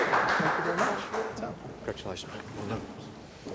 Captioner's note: applause